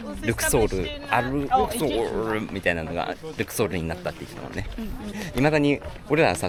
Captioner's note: Arabic